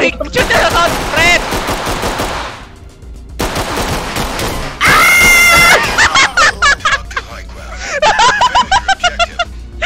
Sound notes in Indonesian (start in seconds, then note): 0.4 baku tembak; 7.8 ngakak; 8.0 ngakak lagi